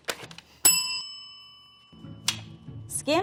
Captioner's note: bell ringing